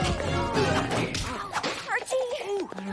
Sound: yelling; banging; groaning

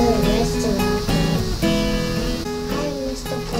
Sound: mmm

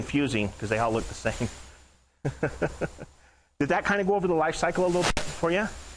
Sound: laughing

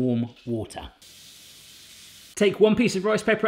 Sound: splashing

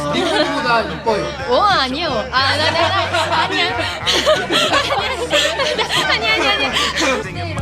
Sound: laughs

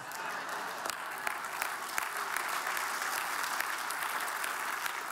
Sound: audience applauding

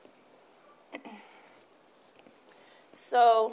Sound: clears throat

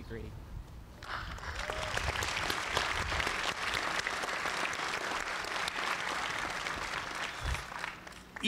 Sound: applause

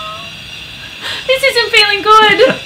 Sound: laughs

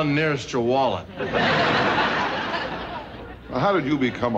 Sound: audience laughing

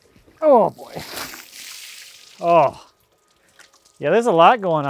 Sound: water splashing

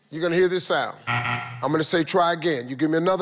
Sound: tone buzzing

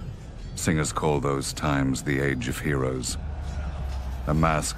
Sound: battle sounds

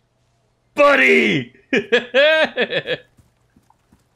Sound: happy chuckle

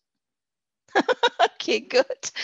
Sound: laughs

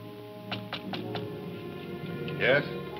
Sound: knocking on door

